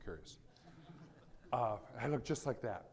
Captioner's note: audience laughing